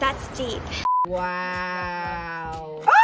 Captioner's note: beeping